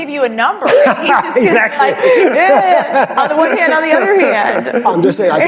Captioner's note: laughter